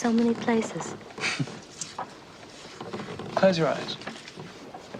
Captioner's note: James chuckling